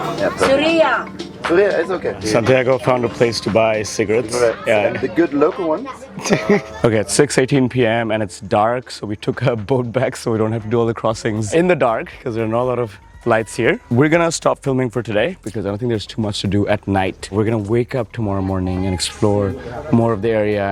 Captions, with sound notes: - (foreign language) - (foreign language) - It’s ok. Santiago found a place to buy cigarets. - Cigarets. Yeah. - The good local ones. (laughs) Okay. At 6:18 p.m. and it's dark. So we took a boat back so we don't have to do all the crossings in the dark, because there are not a lot of lights here. We're going to stop filming for today because I don’t think there's too much to do at night. We're going to wake up tomorrow morning and explore more of the area,